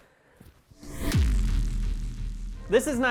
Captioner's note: shhhhhhBOOM